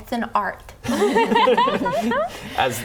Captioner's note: laughing